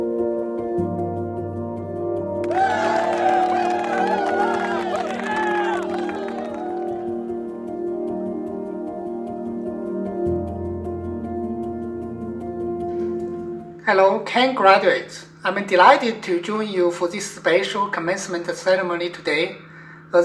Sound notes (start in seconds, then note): 2.4 cheers and applause